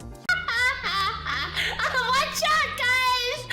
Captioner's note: gremlin noises